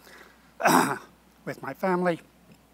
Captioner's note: clears throat